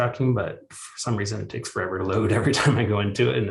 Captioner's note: chuckles